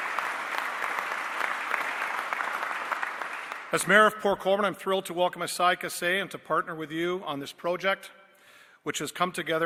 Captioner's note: applause